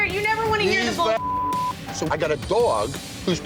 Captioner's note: beep